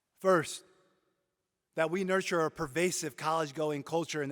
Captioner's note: none